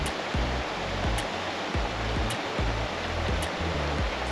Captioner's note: sound of running water